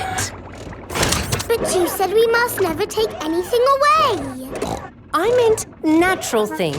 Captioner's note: snorts